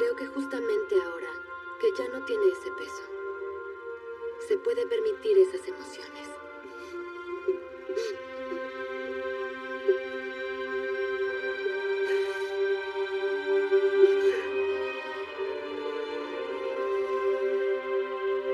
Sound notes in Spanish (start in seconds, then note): 11.6 Solloza